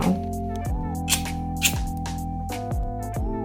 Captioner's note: lighter sparking again